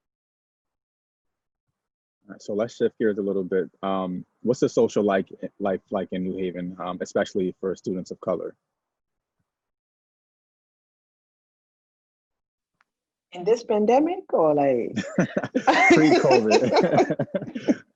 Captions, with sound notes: - So let's shift gears a little bit. What's the social life like in New Haven, especially for students of color? - In this pandemic, or like? (laughs) - Pre-COVID. (laughs)